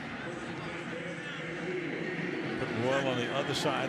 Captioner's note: pa announcement